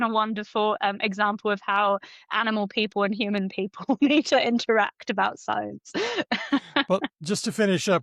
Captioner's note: laughs